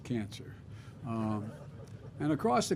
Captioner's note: laughter